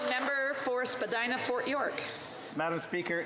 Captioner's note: some Applause